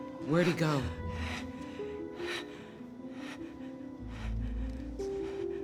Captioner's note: breathing heavily